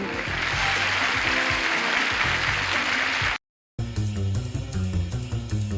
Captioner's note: applause